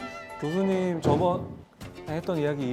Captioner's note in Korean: 쾅!